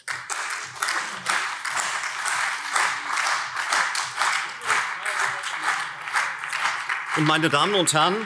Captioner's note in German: Beifall CDU und SPD - Zuruf BÜNDNIS 90/DIE GRÜNEN